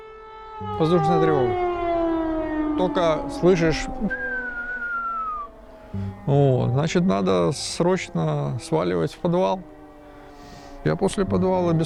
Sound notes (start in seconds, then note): 3.5 whistling